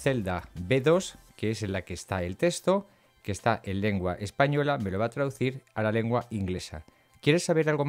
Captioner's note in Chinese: 西班牙语